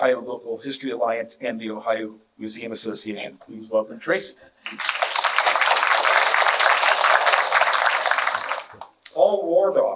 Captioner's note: clapping